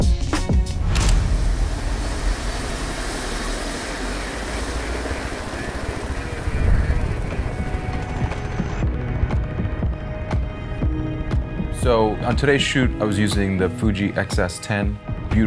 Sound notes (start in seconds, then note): 1.4 engine accelerating; 5.1 muffled radio chatter; 10.0 chill music